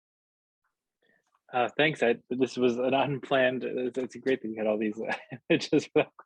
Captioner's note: laughs